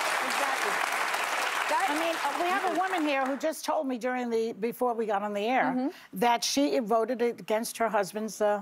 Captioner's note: cheers and applause